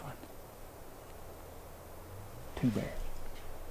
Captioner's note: insects buzzing